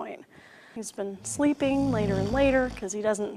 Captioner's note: loud snoring